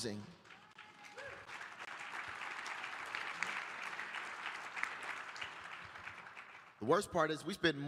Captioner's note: applause